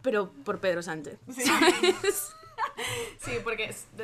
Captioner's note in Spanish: risas